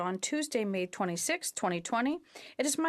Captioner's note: speaking in French